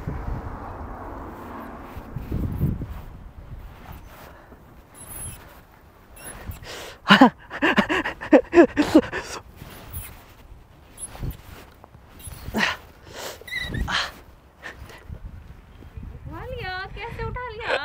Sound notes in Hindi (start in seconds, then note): 6.2 हँसते हैं